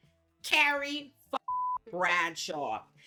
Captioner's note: beep